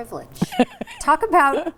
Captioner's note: laughing